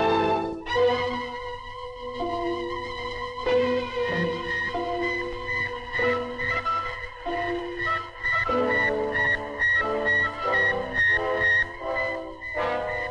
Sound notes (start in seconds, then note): 0.3 tense orchestral music; 4.1 satellite beeping